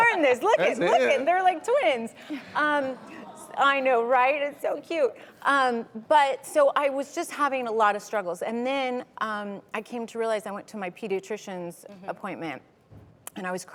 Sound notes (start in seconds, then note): 3.2 crowd cooing